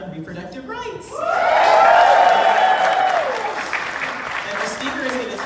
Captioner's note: crowd cheering and clapping